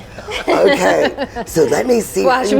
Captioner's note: laughing